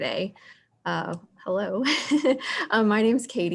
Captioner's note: chuckles